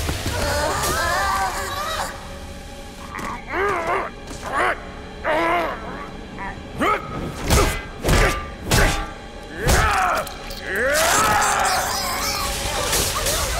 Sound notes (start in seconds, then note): 0.2 moaning; 2.7 grunting; 6.5 grunting, clanking